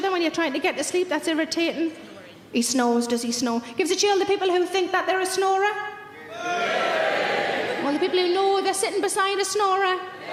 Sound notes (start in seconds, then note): 6.3 random audience members shouting